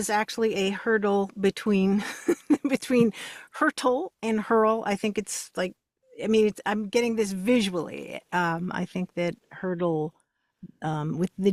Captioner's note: laughs